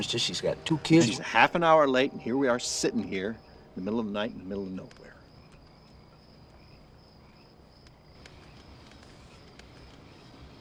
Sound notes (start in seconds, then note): 6.1 crickets chirping